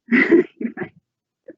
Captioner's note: laughing